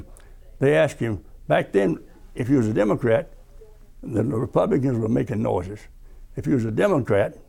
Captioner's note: and the Republicans were making noises